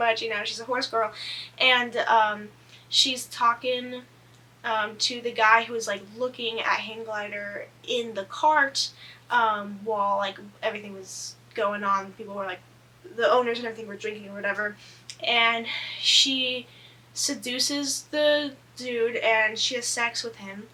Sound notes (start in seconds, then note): none